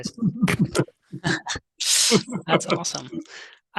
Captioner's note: both laughing